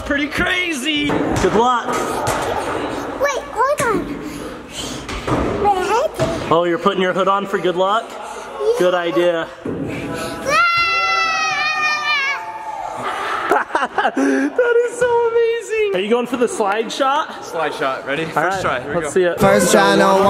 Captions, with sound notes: - I don't know, that's pretty crazy. Good luck. - Wait, hold on. My hoodie. - Oh you're putting your hood on for good luck? Good idea. (yells) (laughs) - That is so amazing. Are you going for the slide shot? - Slide shot, ready? First try.